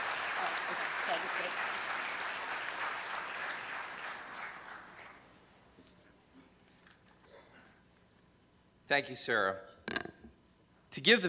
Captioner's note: cheers and applause